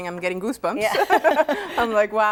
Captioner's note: both laughing